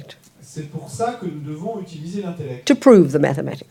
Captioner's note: French